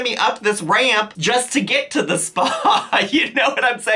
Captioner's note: chuckles